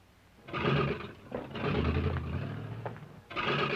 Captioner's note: engine revving